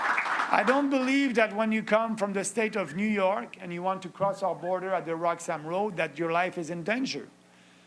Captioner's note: applause